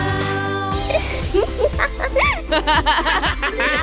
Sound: laughter

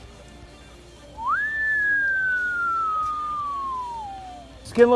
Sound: whistles

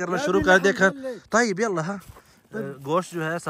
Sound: Arabic

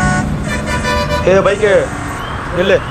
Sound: traffic noise

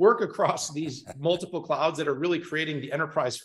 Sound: chuckling

